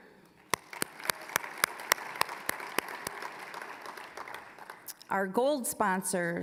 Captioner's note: applause